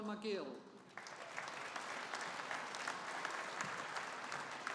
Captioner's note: audience applauding